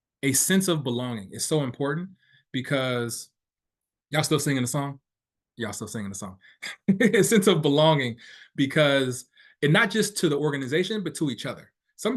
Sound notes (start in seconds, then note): 6.6 laughing